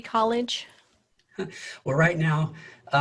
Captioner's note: laughs